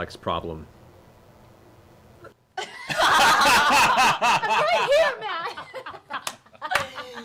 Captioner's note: laughter